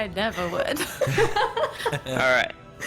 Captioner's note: laughs